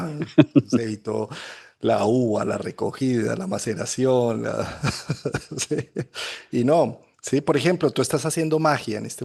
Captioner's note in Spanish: risas